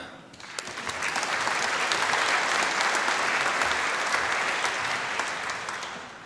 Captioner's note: applause